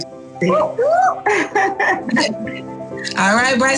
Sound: laughs

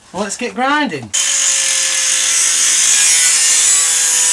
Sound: machine whirring

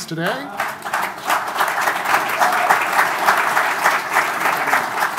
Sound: audience applauding

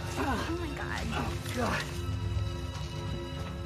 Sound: grunting

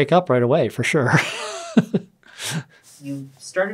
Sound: laughs

